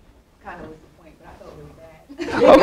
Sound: audience laughs

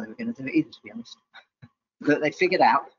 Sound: laughs

